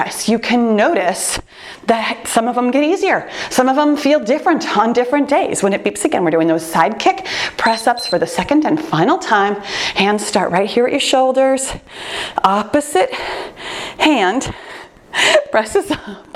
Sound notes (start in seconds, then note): 7.6 timer beeps